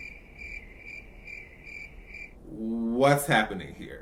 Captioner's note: crickets